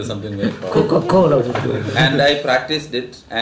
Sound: laughs

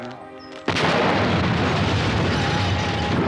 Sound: explosion

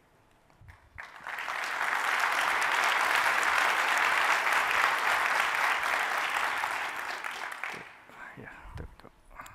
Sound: applause

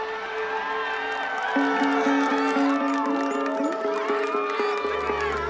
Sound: instrumental music; crowd cheering and clapping

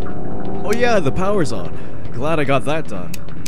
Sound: generator hums

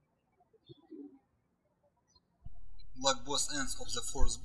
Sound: birds chirping

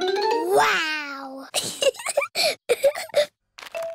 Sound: giggles

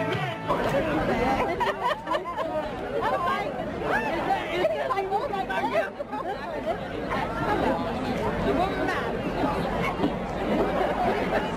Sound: background crowd talking

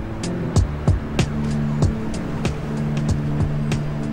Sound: sirens wailing distantly

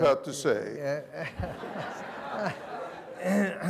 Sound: laughter

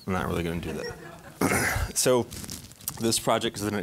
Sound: audience laughing

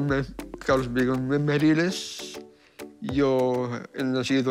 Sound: speaks spanish

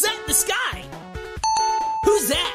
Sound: dingding

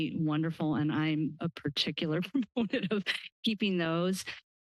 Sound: laughter

